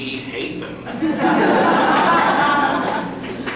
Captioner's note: laughter